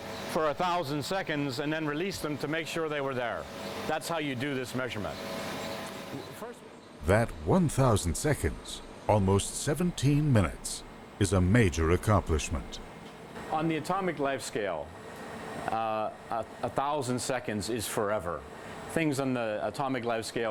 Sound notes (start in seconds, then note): 7.1 voiceover